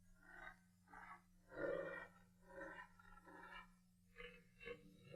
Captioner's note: distant animal noise